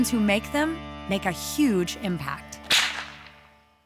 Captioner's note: whip crack